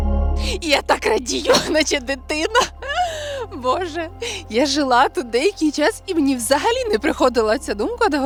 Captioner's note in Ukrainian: сміх